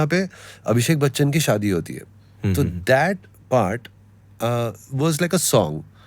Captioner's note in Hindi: गला साफ़ करने की आवाज़